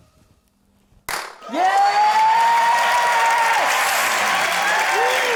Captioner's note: pop!; cheering, applause